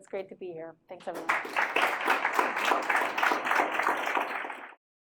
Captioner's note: audience applaud